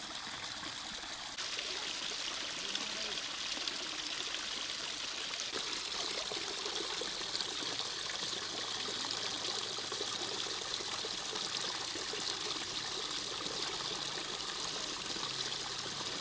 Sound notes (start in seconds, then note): 5.7 sound of water